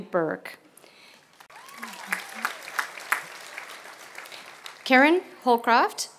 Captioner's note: applause